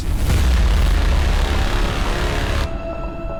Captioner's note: dramatic music; static crackling; ominous music